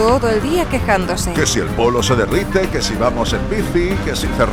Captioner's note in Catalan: Fent una mica de burla